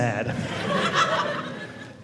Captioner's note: audience laughing